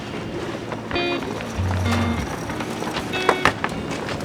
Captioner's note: cogs unwind